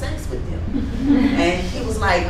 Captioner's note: laughing